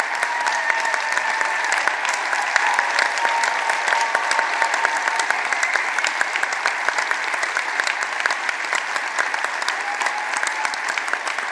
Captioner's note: applause